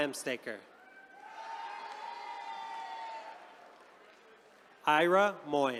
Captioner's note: attendees cheering